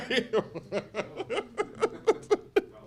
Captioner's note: laughs